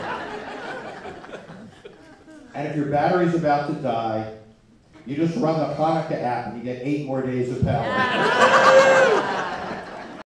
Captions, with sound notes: (laughter) And if your battery's about to die... You just run the Chanukah app... And you get eight more days of power. (laughter)